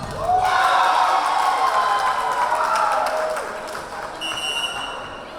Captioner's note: yelling; cheering; clapping; whistle blowing